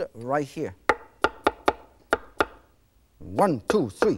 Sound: cutting

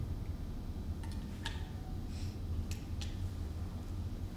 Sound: pedals click

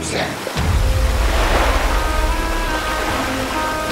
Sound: water gushing

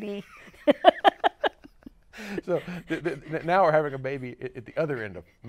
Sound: laughs

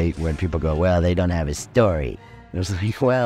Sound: mockingly

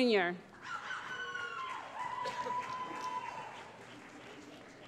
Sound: cheering

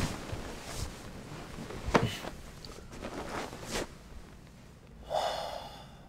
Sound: blankets rustling

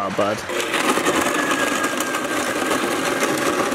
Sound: chopping ice

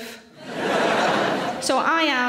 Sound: audience laughs

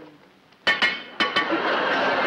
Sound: metal clanking; audience laughs

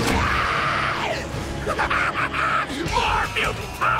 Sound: grunting; laughing

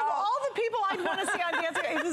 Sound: laughter

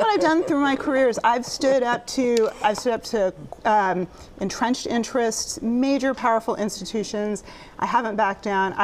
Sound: laughter

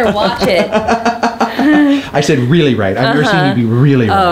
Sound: Rocky laughing

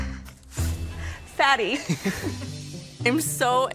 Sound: laughs

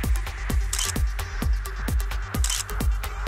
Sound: camera shuttering

